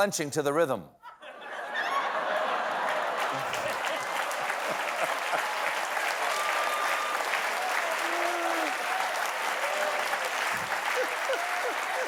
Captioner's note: laughter; applause